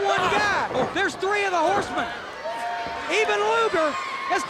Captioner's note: crowd clamoring